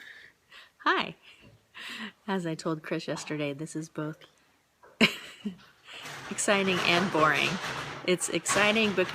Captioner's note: laughs; laughs